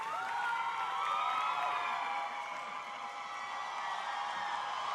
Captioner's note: crowd cheering